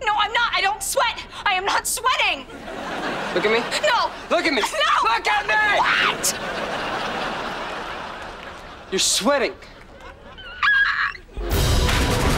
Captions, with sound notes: I don't sweat. I am not sweating. - Look at me. - No. - Look at me. - No. - Look at me! - What?! You're sweating. [yelping]